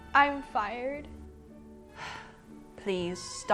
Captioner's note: sighs again